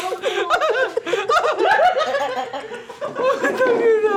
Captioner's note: laughter